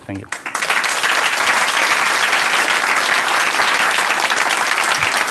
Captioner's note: applause